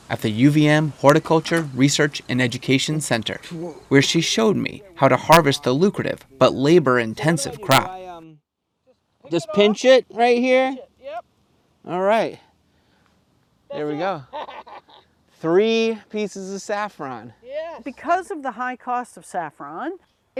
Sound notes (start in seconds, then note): 13.7 laughing